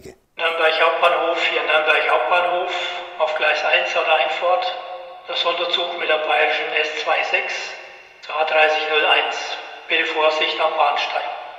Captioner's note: announcement in Franconian dialect